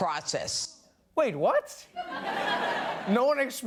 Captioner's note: laughter